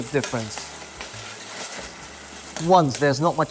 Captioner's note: sizzling sound